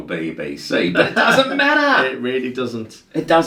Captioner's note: laughs